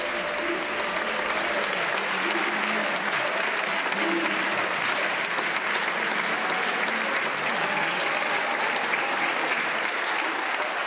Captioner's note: applause